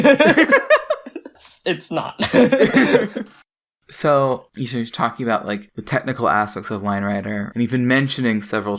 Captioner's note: both laugh